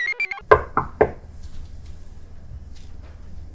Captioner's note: computer chirps; door knocks